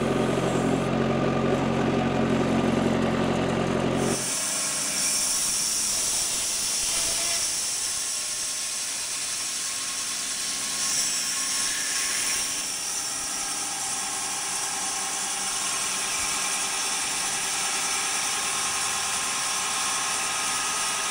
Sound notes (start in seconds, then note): 0.0 engine revving; 5.7 saw whirring; 11.5 saw whirring